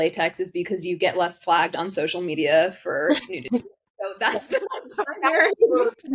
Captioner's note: both laugh